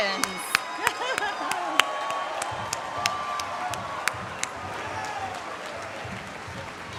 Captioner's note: applause, cheering